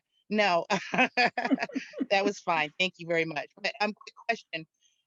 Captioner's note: laughs